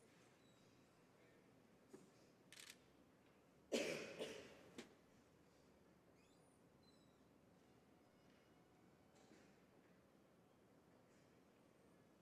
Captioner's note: speaking French